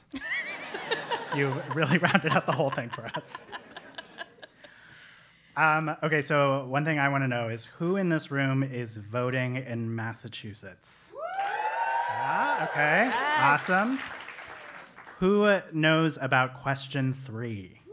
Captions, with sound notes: >> [LAUGH] >> You've really wrapped up the whole thing for us. >> [LAUGH] >> Okay, so one thing I wanna know is who in this room is voting in Massachusetts? >> [APPLAUSE] >> Okay, awesome. >> Nice. >> Who knows about question three?